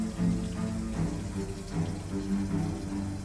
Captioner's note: none